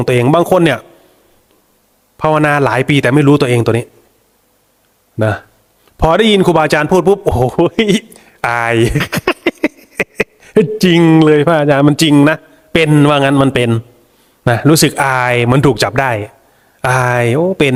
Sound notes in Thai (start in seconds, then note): 8.8 เสียงหัวเราะ